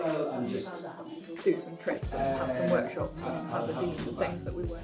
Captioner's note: fade in chatter; fade out chatter